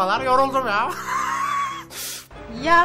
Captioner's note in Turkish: gülme sesi̇